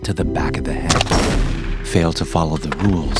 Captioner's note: shotgun blasts